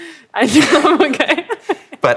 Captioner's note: laughing